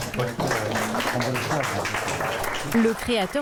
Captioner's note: applause